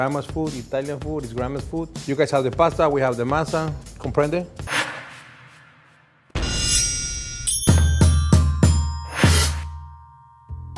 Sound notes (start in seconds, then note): 7.0 dramatic sounds